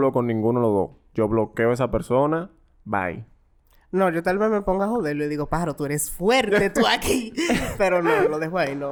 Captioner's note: laughs